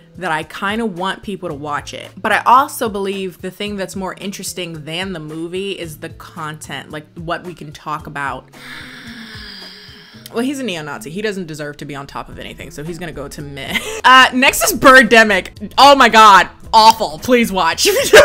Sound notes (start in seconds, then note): 8.6 sighs